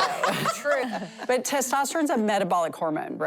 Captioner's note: laughter